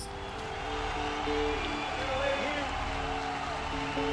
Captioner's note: crowd cheering